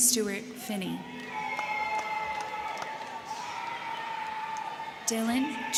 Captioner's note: crowd cheering; crowd clapping